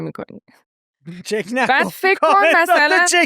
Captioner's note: laughs